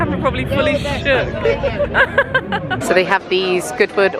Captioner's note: both laugh